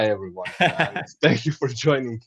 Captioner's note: chuckles